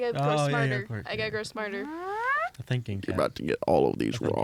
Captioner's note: imitates spinning sound